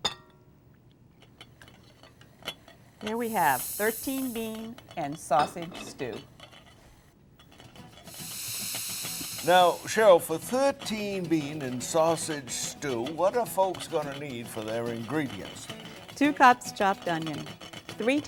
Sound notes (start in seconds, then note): 6.4 pot rattling; 7.8 upbeat music; 8.0 steam hissing